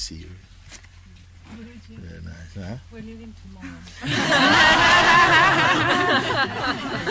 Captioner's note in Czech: smích